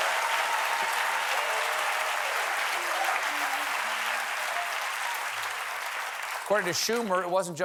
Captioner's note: cheers and applause